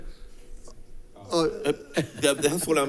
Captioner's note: people laughing